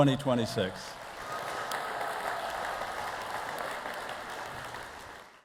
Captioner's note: audience applauding; audience cheering